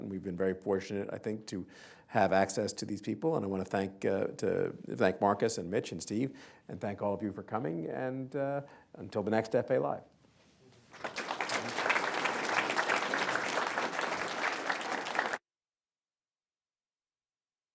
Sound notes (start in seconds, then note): 10.8 applause